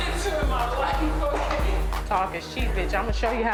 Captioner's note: all laughing